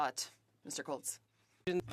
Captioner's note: speaking French